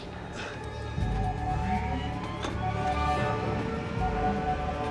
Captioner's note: satellites powering up